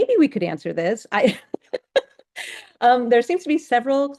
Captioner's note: laughs